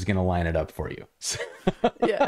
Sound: laughter

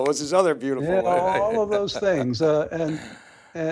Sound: laughs

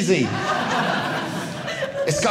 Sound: audience laughing

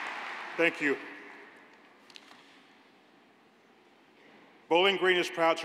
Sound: cheers and applause

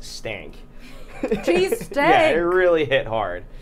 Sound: laughing

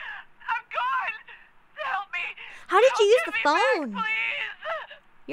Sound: sobbing

